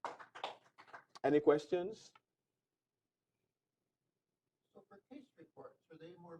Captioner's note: applause